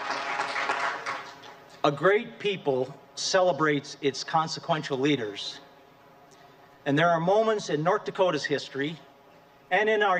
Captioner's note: applause